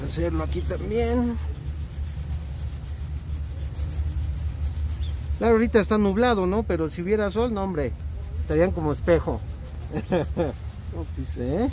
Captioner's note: laughter